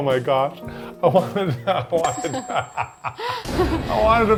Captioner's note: laughing